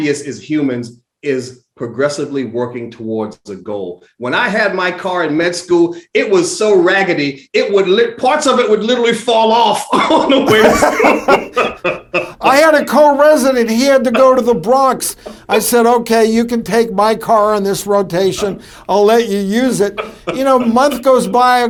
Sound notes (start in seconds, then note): 9.9 both laughing